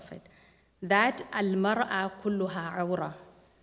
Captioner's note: non-english speech